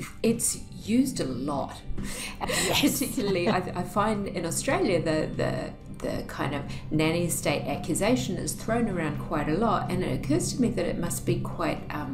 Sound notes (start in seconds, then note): 2.5 laughs